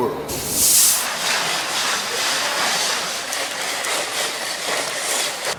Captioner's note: machinery clattering